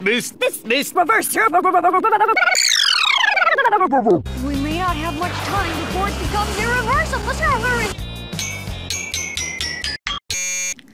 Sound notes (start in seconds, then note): 8.0 TING*ing to inn jingle; 8.3 ting